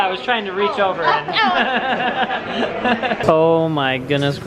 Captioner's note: laughs